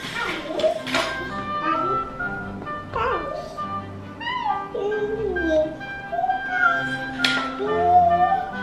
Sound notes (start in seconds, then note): 4.5 little girl noises